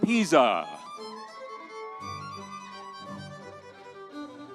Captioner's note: audience cheering